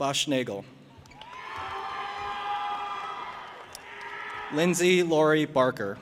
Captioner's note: audience applauding and cheering